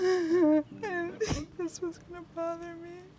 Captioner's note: crying